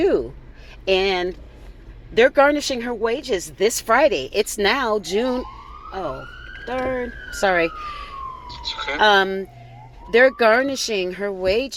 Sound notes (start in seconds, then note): 4.7 SIREN - oh, third sorry